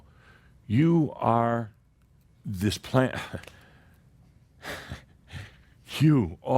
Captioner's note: Adamus chuckles and sighs